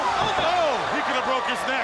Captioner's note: crowd cheering